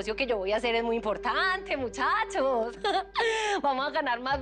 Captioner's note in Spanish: Ríe